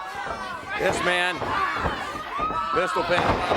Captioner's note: crowd chatter